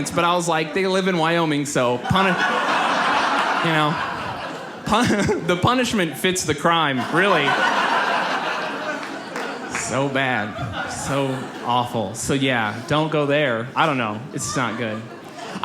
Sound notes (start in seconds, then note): 3.9 audience laughs; 6.7 audience laughs